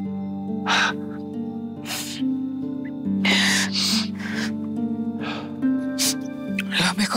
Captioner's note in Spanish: Sollozos